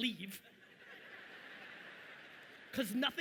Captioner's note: audience laughing